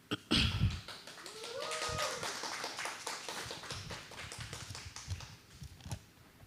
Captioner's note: applause